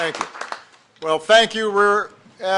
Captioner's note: applause